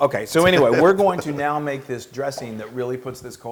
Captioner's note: laugh